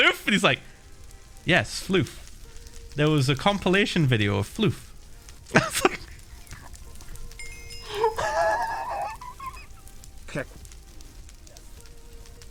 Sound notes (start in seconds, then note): 7.7 Phil lets out a long, wheezing peal of laughter